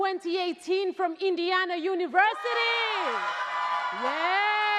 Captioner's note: crowd cheers